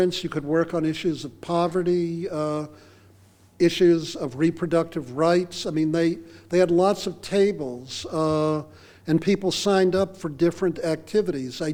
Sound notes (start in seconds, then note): none